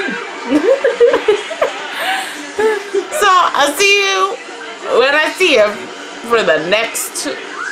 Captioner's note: laughs